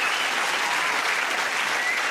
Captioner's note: cheers and applause